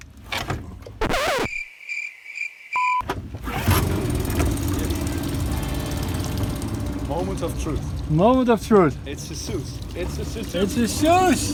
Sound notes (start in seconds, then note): 1.0 record scratch; 1.4 crickets chirping; 2.7 beeping noise; 3.4 sound of engine starting